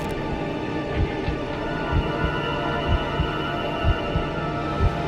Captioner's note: heartbeat thumping